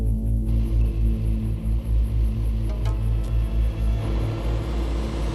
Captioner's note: dramatic music; car engines revving; dramatic music